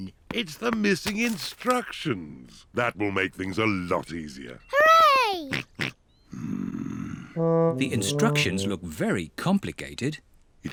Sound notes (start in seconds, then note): 5.8 snorts